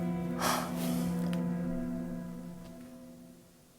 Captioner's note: sighing